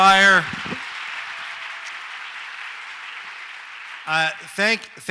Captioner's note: audience applauds